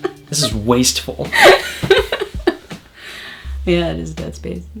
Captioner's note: laughing